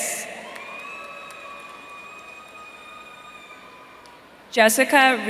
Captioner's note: audience cheering